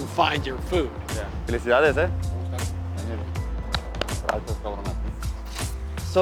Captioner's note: conversing in Spanish